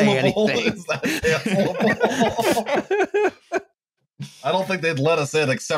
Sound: laughter

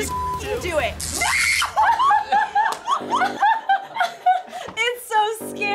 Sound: screams and laughs; laughs

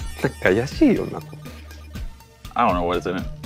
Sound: Takeru speaks Japanese

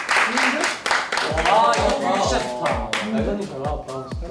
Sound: round of applause

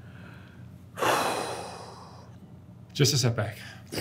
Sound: breathing heavily

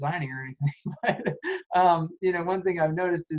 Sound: laughs

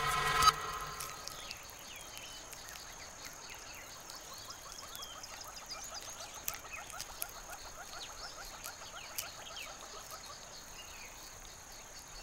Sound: intense background music; birds chirping, crunching

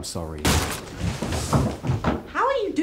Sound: coffin breaking

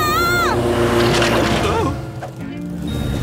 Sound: screaming

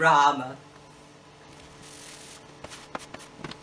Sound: digital fast forwarding noise

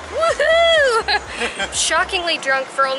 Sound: laughing

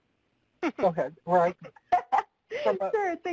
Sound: laughs

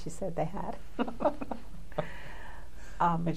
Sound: laughter

